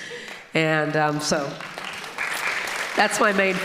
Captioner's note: audience applauding